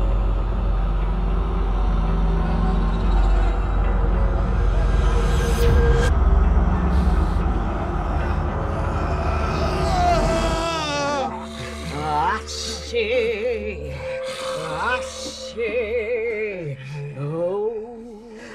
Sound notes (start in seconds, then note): 9.4 Keith yells